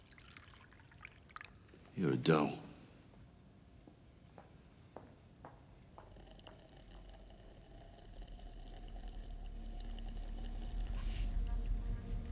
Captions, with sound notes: (liquid pouring) You're a doll. (footsteps plodding) (William slurping)